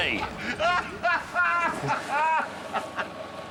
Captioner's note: Clarkson laughs